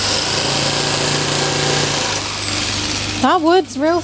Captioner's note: whirring